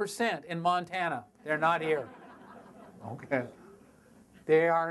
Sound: audience laughter

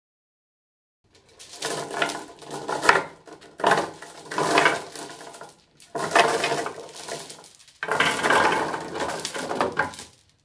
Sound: sound of chain

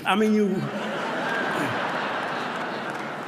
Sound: laughter

